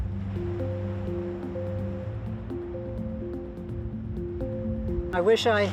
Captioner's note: calm music; waves crashing